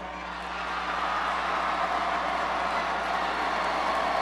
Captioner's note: crowd cheers